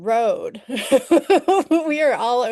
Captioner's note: laughing